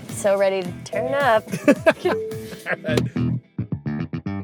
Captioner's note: laughs